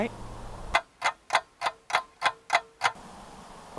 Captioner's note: clock ticking